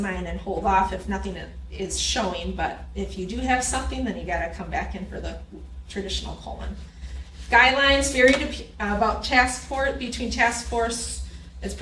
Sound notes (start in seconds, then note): none